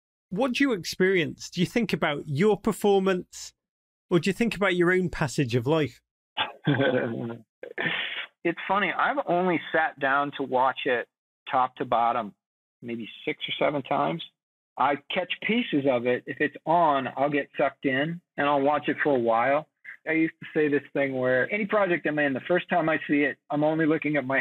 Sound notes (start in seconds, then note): 6.4 chuckles